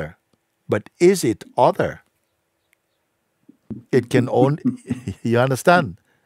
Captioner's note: Fragender lacht